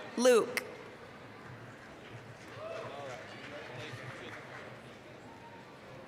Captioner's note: applause, cheering